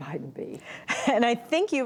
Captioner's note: laughter